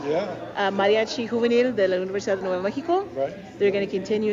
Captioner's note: speaking in Spanish